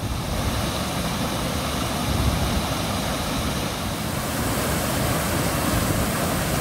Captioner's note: waterfall sound